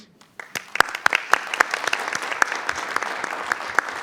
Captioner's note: group applauds